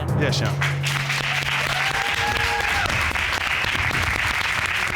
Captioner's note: audience applauds